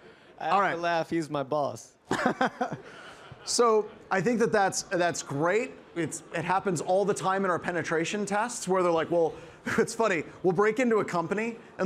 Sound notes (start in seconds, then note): 2.1 laughs